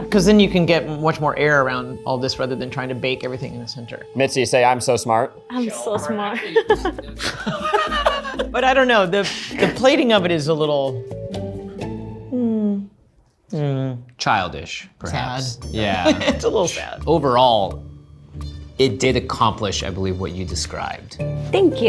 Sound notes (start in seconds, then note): 6.2 laughs; 6.3 all laughing; 15.8 laughs